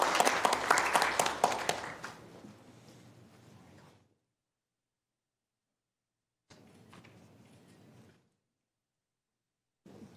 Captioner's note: applause